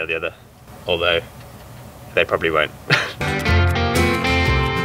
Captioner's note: laughs